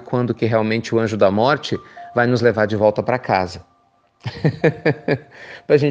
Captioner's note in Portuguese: risos